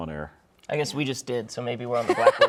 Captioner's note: laughing